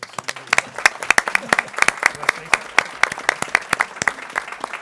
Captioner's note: people clapping